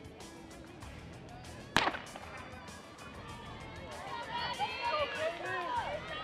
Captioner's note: shouting; starting gun